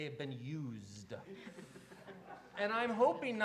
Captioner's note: laughter